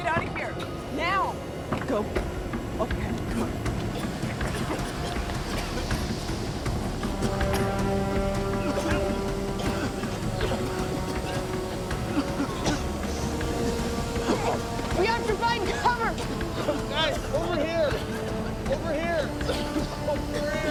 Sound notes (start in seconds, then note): 4.1 all coughing